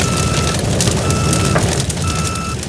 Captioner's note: beeping